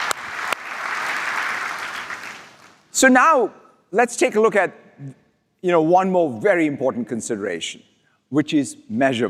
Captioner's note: applause